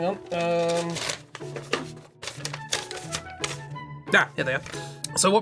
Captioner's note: paper rustling